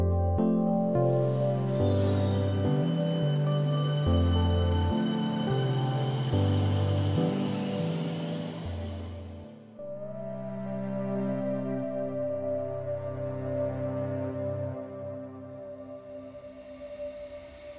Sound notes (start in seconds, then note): 3.0 siemens train departing